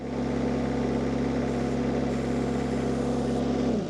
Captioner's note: forklift rumbling